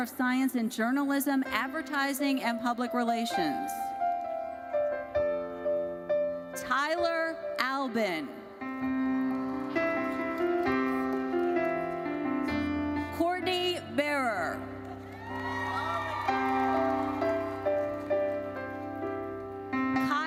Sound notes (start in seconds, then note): 15.0 audience cheers